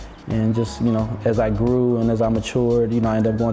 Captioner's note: chuckles